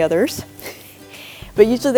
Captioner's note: chuckles